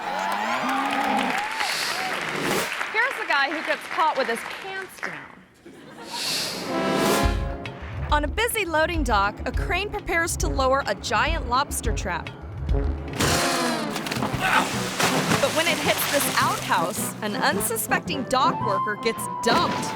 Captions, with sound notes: (bull bellows) (audience cheering and clapping) Here's a guy who gets caught with his pants down. (audience chuckling) (screen whooshes) On a busy loading dock, a crane prepares to lower a giant lobster trap. (outhouse bangs) (dock worker grunts) (water splashing) But when it hits this outhouse, an unsuspecting dock worker gets dumped.